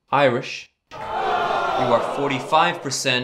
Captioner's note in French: public : hooo!